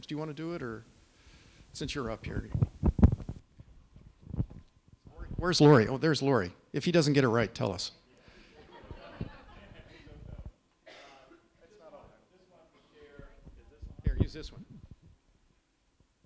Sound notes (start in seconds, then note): 8.4 laughter; 11.6 mumbling